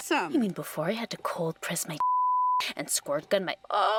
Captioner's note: beep